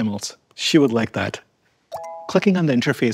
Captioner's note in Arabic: صوت تنبيه